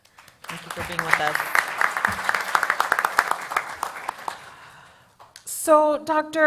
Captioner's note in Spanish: Aplausos